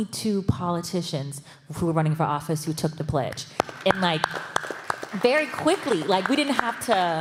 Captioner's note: applause